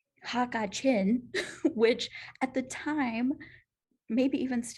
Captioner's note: laughter